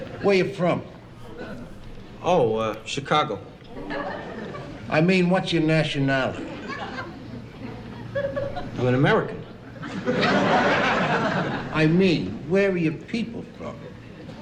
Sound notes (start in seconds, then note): 10.7 audience Laughing